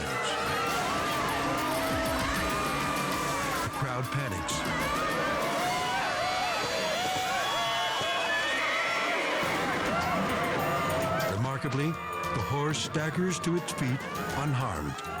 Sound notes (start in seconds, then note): 0.0 suspenseful music; 4.7 crowd shouts